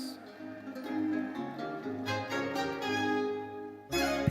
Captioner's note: audience cheers